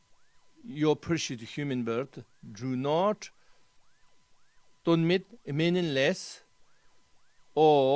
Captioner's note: tibetan